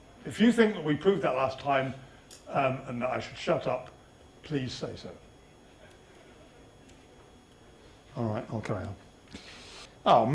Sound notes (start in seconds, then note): 5.1 audience silence